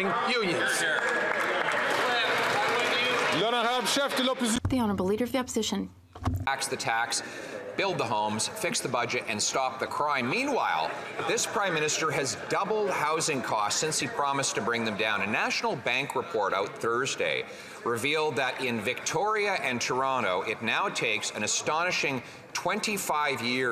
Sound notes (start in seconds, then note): 4.7 some Applause